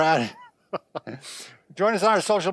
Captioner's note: laughs